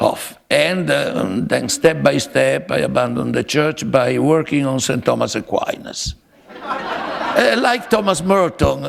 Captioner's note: laughter